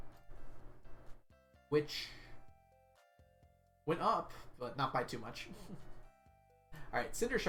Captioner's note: chuckles